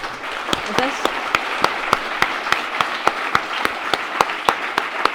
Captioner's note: audience applauds